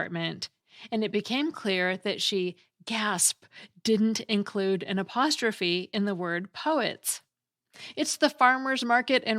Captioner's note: gasp